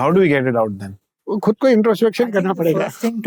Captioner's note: Kishore speaking in Hindi